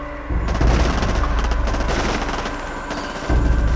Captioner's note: heavy gunfire